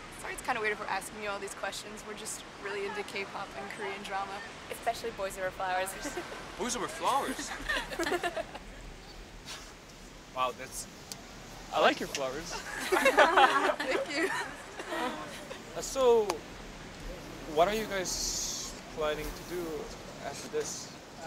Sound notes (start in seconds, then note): 7.1 laughter; 9.0 chuckles; 12.4 laughter